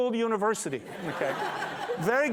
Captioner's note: laughter